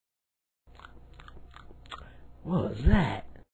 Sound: munching Noises

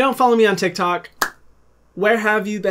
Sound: Hyram claps

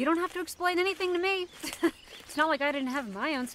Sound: laughs

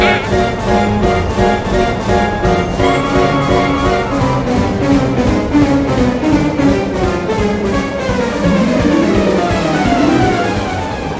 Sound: the wind and music continue

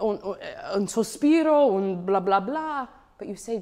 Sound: speaks in foreign language

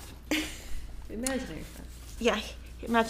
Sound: laughing

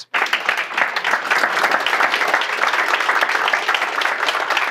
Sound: audience clapping

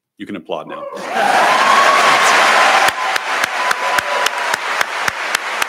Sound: audience applauding

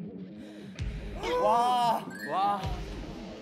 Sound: gasp

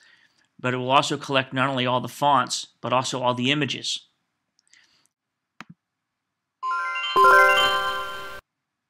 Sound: chimes

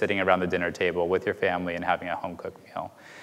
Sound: none

